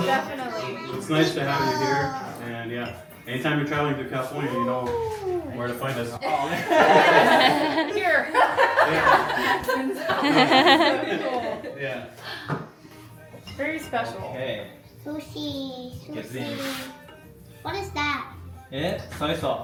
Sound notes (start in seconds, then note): 12.0 laughs